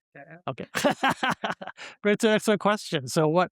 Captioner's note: laughs